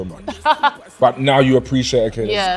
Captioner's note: laughing